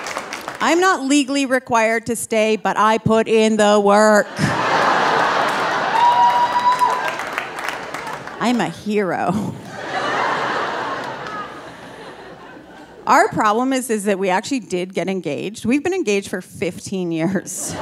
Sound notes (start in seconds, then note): 4.2 audience laughing and cheering; 9.4 laughs; 9.4 audience laughing